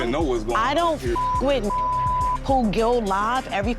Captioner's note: beep